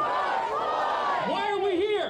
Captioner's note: crowd in unison